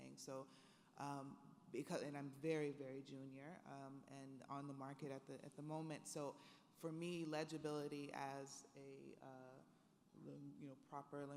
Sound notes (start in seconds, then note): none